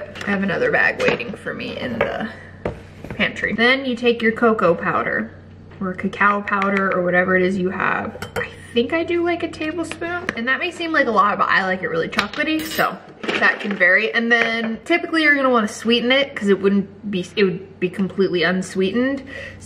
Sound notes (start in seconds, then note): none